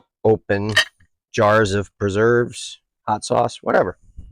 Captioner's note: none